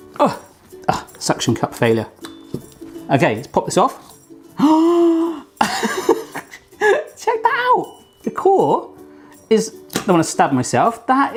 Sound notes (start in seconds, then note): 4.5 gasps; 5.6 laughs